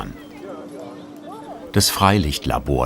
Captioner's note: bubble of voices